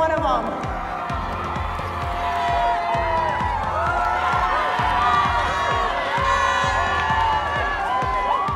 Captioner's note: cheering